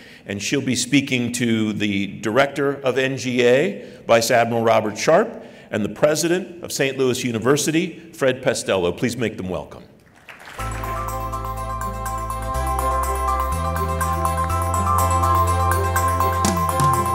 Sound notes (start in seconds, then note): 10.0 clapping; 10.6 light music